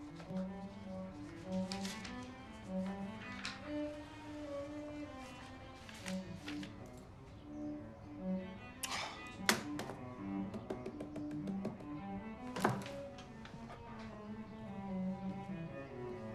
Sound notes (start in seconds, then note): 0.1 mellow music; 8.8 sighs; 9.4 pen thuds; 10.3 fingers tapping; 12.7 mellow music